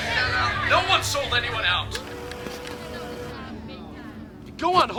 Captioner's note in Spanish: zumbido de la cámara